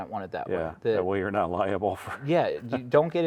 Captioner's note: laughing